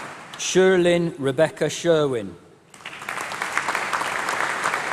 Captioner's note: applause